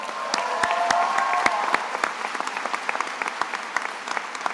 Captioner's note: attendees applauding